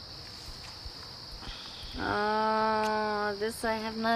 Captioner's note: kiss